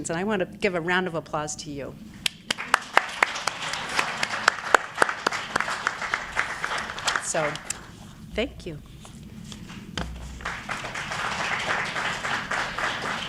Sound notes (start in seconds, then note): 2.2 audience applauding; 10.0 audience applauding